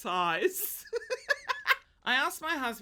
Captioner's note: laughs